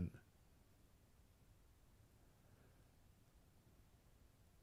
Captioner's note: silence